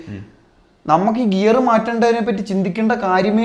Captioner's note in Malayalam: തൊണ്ട ശരിയാക്കുന്നു